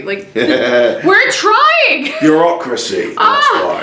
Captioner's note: laughs